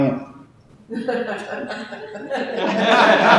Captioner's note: coughing